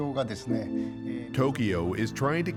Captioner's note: speaking Japanese